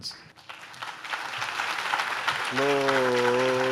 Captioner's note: audience claps